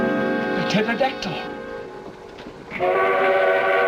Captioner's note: train whistle